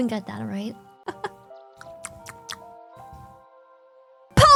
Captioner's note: laughs